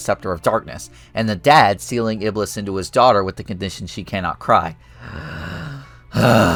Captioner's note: sigh